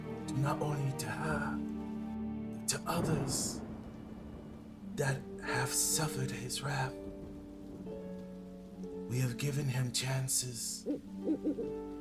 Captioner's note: owl hoot hoot